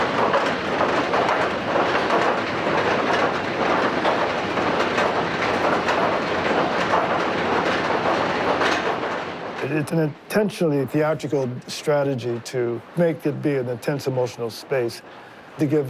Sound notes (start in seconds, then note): none